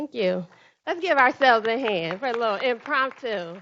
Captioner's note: group applauding